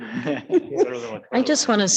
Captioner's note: chuckles